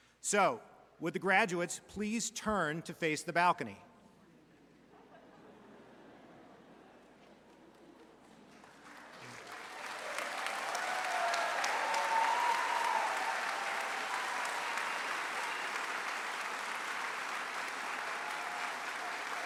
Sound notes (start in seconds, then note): 5.7 audience chatters; 9.5 audience applauds